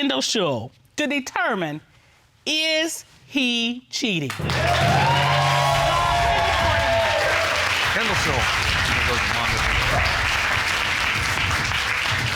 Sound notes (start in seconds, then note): 4.3 cheering